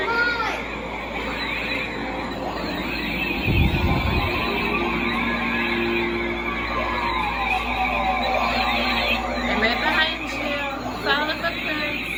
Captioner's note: blaster guns beeping and firing, echoing noises